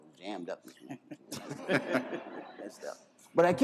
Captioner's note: laughter